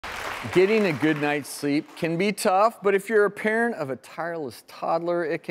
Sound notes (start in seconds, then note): 0.0 audience applauding